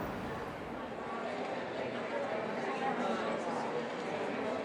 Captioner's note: indistinct chatter